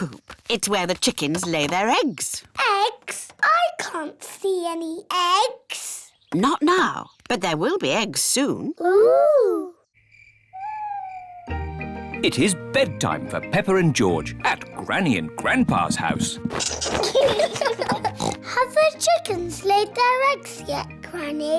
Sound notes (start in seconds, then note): 9.8 crickets chirping; 16.6 both giggling; 18.0 oinks